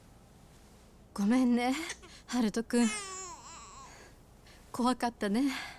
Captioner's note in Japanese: 泣き声